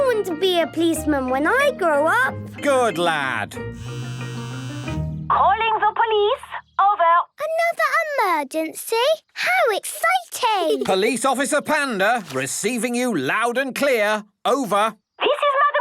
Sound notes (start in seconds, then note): 3.8 phone ringing